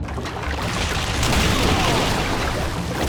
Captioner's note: groaning